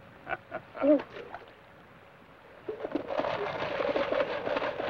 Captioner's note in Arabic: ثيودور يضحك; خشخشة صندوق الهزاز